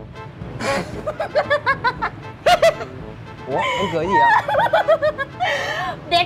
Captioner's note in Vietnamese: Tiếng cười